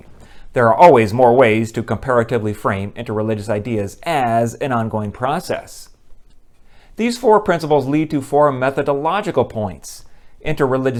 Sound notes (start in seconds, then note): none